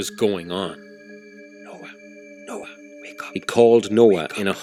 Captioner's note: Arron whispers - "Noah.. Noah, wake up!